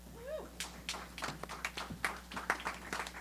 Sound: applause

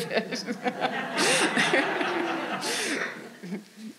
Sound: all laughing

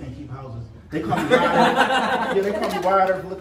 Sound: laughing

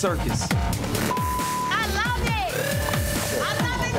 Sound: beeps

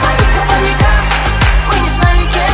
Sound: clap clap

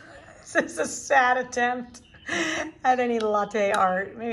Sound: laughing

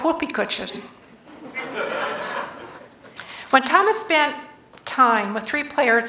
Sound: laughter

